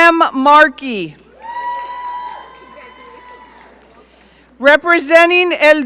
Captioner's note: audience cheering